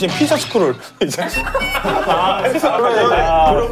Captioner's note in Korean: 실소